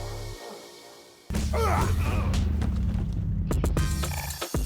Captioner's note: fighting grunts